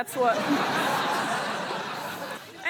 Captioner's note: laughter